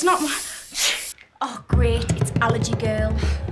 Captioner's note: sneezes